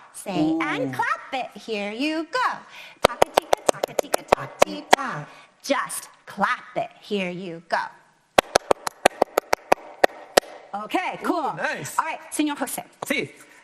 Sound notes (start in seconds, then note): 8.4 clapping to the rhythm